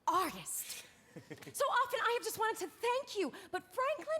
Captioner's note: laughs